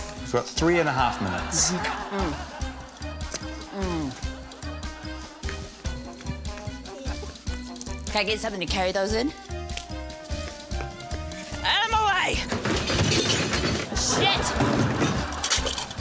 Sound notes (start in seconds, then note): 0.8 laughter; 12.2 debris clatters; 13.8 laughter